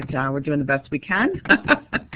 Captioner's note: chuckles